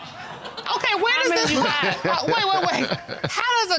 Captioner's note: laughing